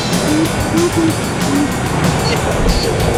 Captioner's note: engine revving; upbeat music